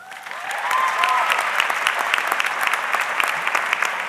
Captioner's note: audience clapping